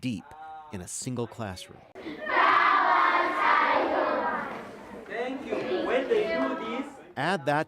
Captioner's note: reciting in unison